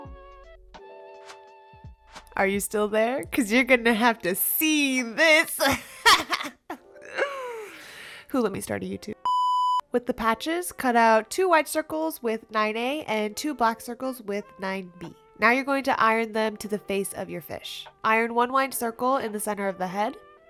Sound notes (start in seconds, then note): 7.6 inhales sharply